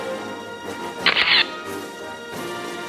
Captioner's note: camera shatters; orchestral music